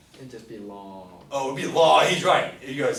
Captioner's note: voiceover